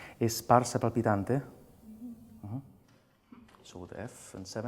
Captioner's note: speaking lyrics in foreign language